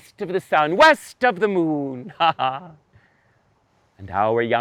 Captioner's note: laughs